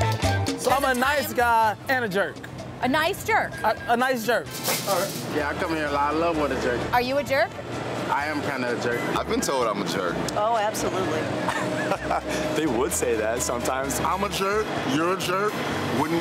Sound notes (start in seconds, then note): 11.3 chuckles